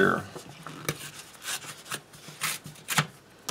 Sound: tearing sound

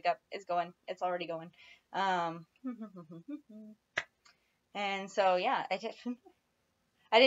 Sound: hum

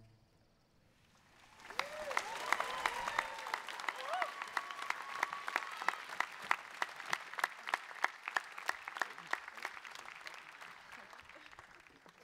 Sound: cheering

